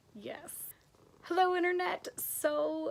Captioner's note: Kona purrs in background